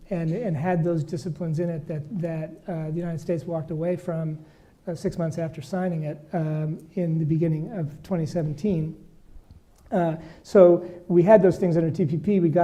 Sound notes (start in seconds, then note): none